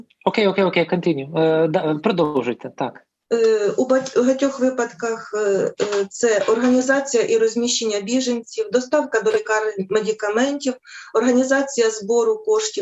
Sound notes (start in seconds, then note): 1.5 foreign Language